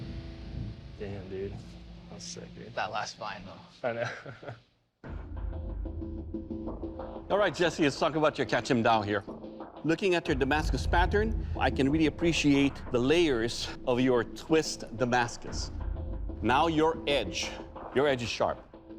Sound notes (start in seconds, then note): 3.9 laughs; 4.9 dramatic music